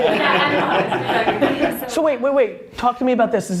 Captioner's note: laughs